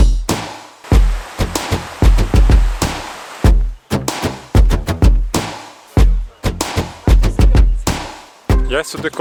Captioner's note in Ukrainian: оплески